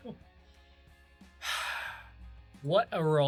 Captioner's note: deep breath out